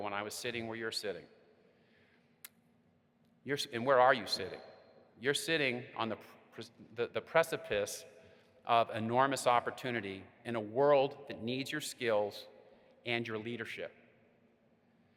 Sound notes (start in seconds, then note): none